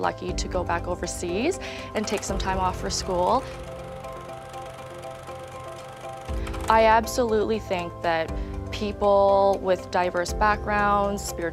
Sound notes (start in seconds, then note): 4.7 film reel rolling